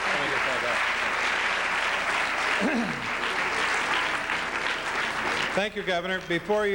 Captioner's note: applause